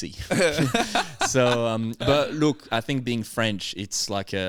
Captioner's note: laughing